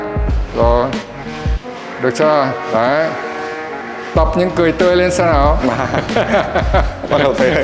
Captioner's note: laugh